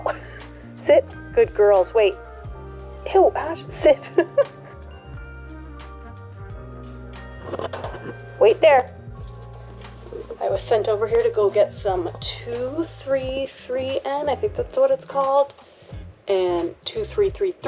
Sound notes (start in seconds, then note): 3.8 haha